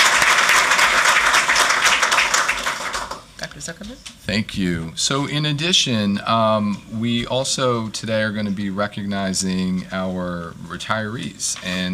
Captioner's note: applause